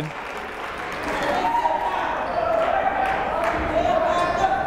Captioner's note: clapping; yelling